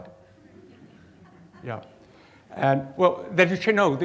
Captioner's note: audience chuckles